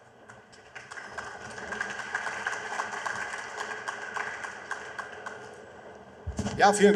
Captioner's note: applause